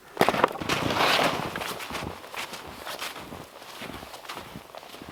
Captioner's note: footsteps crunching